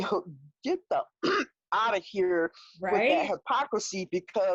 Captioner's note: clears throat